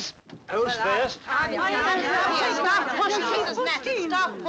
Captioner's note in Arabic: الناس يتحادثون